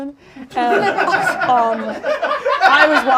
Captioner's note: audience laughs